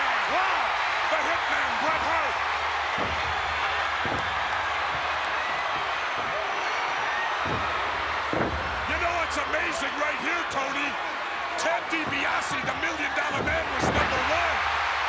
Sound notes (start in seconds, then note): 3.4 applause